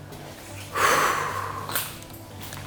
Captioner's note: sigh